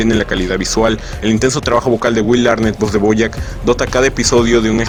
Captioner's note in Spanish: voz de Bojack